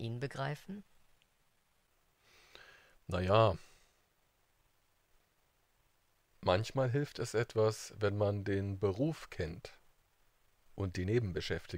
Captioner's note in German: schweigt